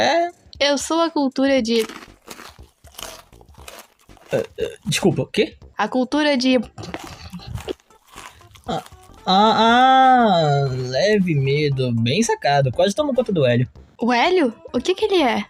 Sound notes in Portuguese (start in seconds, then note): 1.8 crunch; 6.8 crunch crunch crunch